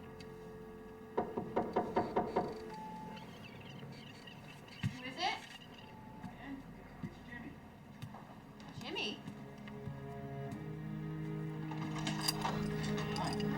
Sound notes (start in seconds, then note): 1.2 hand knocking; 10.2 gentle music